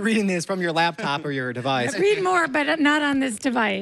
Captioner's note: laughs